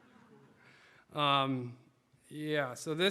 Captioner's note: audience laughing